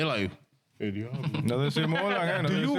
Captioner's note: speaking In Spanish